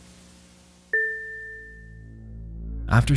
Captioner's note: game chimes; dark music